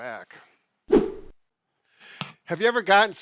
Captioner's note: whooshing